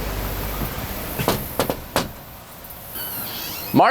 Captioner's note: door knocking; door creaking